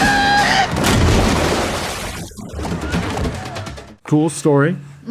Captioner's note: gallons exploding